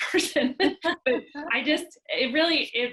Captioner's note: chuckling